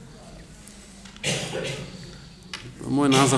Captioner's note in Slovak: kašeľ